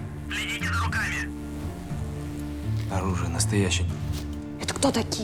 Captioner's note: radio